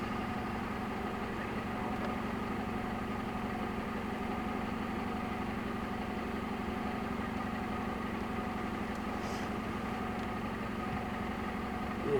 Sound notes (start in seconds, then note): 1.7 vehicle running